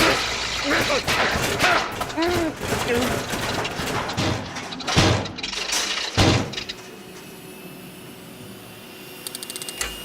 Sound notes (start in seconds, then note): 3.8 heater sputters; 6.1 thuds; 7.6 heater humming